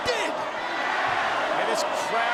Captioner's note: audience chanting